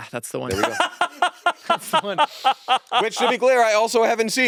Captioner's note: laughing